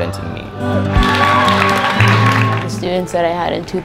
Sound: cheering

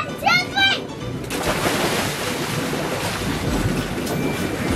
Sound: water splashes

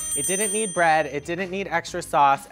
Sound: bell dings

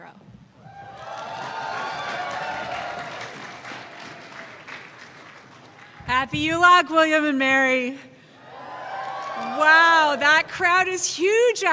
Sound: cheers and applause

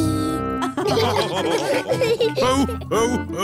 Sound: all laughing

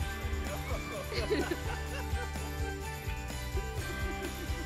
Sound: group laughing

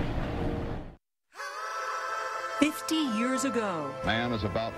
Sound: train rumbling

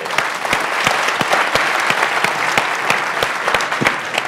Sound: applause

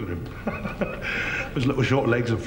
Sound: both laughing

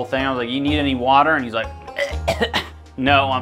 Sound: coughing

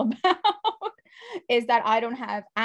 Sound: laughs

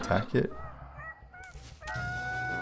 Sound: Mandrake meeping; Mandrake meeping; Mandrake dying scream

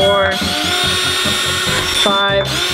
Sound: drill revs

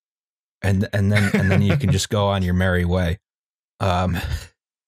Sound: laughs

